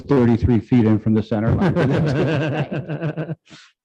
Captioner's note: laughs